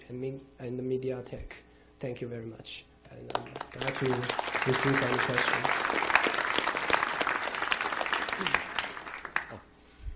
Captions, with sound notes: and the Mediatek. Thank you very much. (applause) And I'd like to receive any questions.